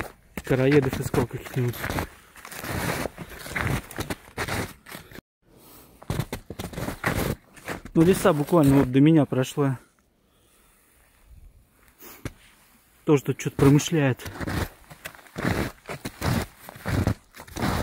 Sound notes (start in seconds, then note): 12.0 snow crunch